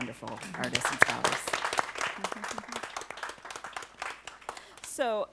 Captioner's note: applause